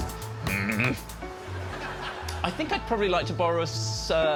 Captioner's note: grunting